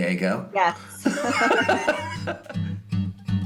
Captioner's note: laughing